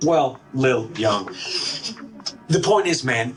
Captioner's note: office background noise